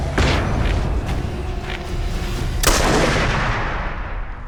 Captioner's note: gunshot